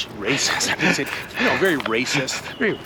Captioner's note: laughs